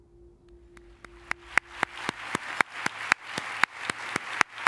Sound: applause

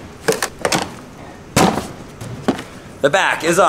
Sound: plastic snapping

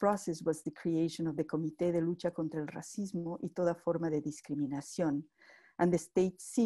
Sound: spanish speech

